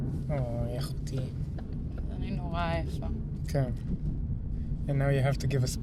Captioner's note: speaking foreign language